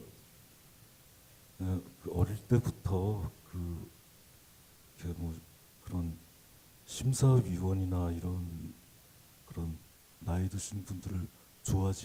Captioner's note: speaking Korean